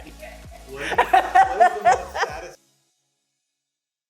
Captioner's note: laughs